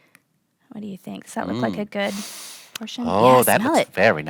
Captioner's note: sniffs